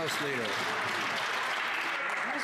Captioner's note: some Applause